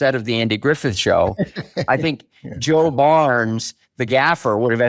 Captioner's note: chuckles